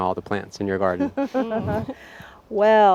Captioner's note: both laughing